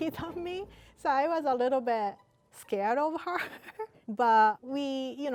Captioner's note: laughs